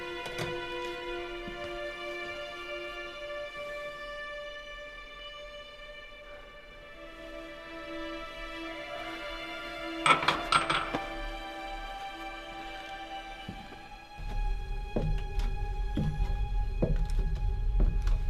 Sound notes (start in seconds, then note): 10.0 metal clanking